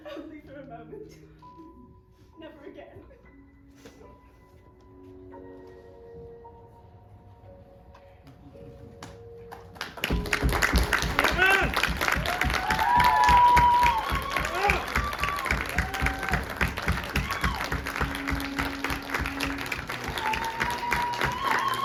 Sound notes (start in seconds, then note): 3.3 emotional music swells; 10.9 audience cheering